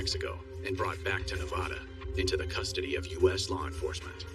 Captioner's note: spking